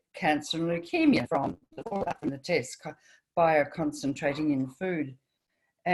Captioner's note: French